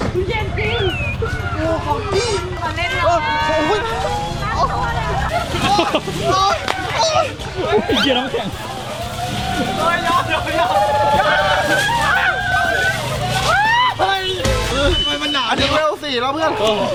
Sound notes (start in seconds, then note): 5.7 chuckles; 5.7 screaming from coldness